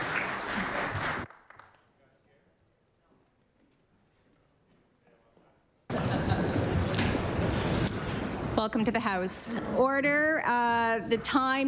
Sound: applause

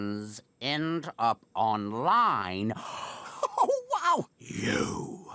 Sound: gasps

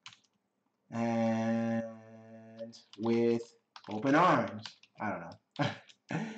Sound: laughs

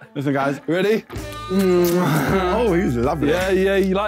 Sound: kissing smacks

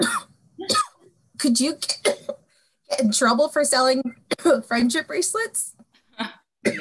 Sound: coughing

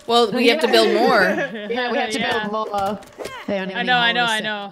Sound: laugh

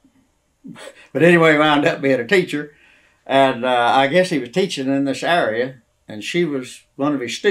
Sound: laughs

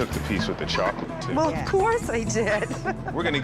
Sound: chuckles

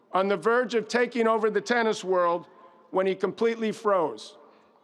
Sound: none

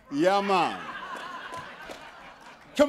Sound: laughter

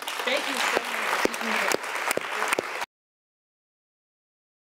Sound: applause

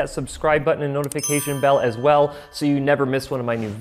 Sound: bell dinging

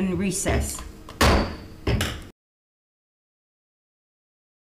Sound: gavel bangs

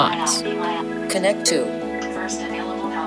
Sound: artificial Voice

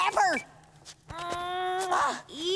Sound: kissing

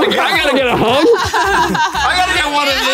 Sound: laughing

